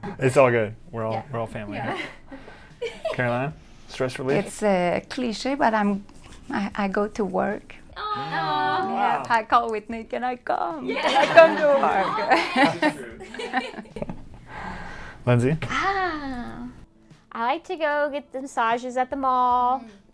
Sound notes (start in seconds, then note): 7.9 all awing; 13.1 all laugh